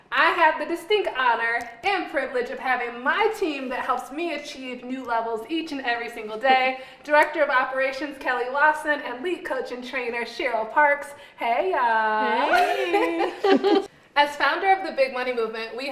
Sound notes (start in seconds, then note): 12.2 laughs